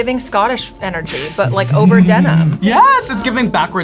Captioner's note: laughs